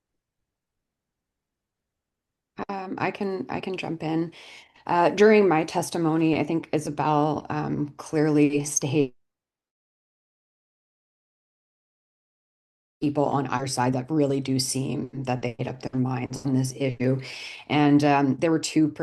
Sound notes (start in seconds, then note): 9.4 audio drops